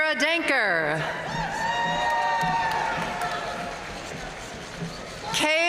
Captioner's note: audience cheering and applauding